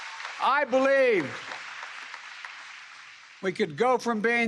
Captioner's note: applause